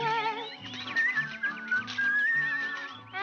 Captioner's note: whistling